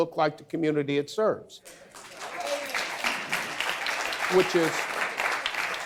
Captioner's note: audience applause